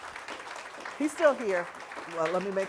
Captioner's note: audience applauding